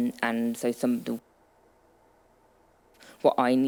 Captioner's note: audio cutting out